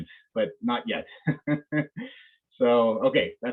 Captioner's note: chuckles